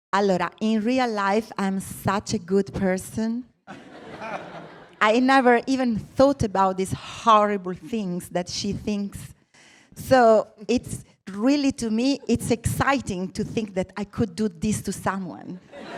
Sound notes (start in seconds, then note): 3.6 laughter